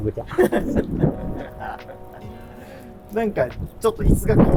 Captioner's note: laughing